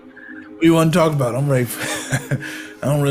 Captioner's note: laughs